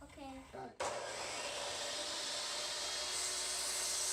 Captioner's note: saw noises